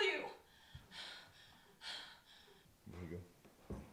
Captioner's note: pants